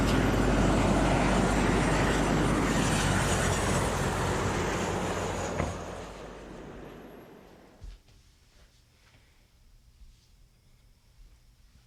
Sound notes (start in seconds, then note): 5.5 trunk hood thuds